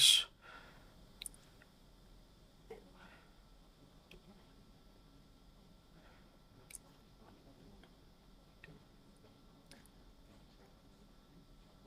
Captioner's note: silence